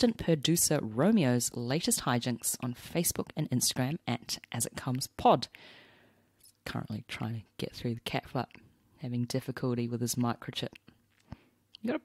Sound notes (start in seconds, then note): none